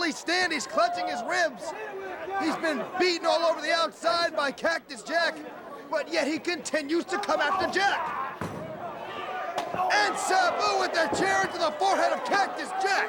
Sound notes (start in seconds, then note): 7.6 crowd chatter; 12.4 crowd chatter